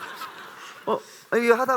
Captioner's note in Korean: 웃음